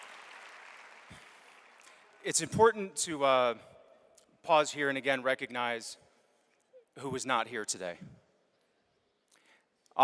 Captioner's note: applause